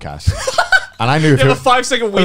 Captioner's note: laughs